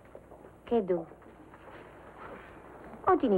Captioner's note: speaking foreign language